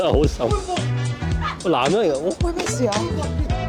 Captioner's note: laughter from the staff